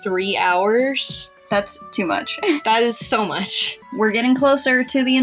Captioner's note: giggle